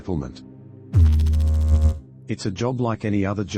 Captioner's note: electrical noise